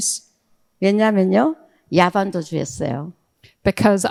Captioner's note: speaking in foreign language